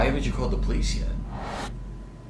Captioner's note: dramatic sound